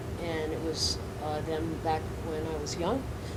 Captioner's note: none